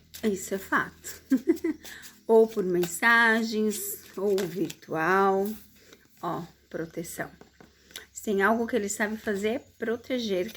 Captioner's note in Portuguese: risadas